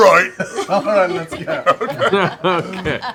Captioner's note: laughs; laughing